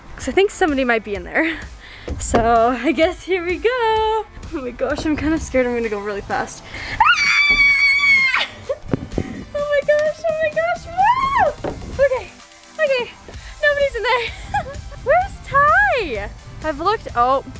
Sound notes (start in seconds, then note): 7.0 screams; 14.1 laughs